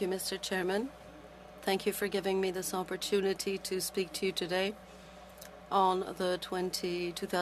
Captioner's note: speaking French